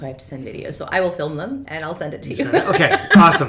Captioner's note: laughs